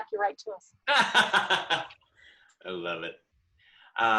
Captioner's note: laughs